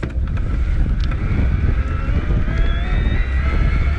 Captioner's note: motor humming